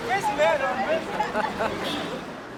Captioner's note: laughing